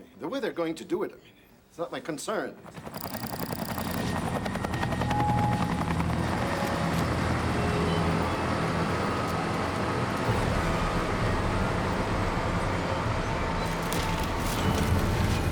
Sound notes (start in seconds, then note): 3.6 helicopter thrumming; 3.6 suspenseful music